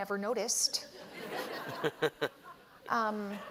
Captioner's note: laughter